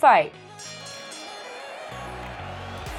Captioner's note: bell ringing; crowd applauding